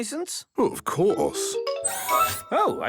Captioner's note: mechanical arm whirring